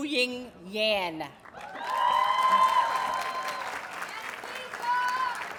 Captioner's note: audience cheers and applauds